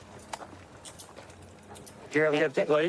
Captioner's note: handcuffs clicking